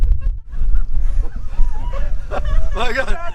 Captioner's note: laughter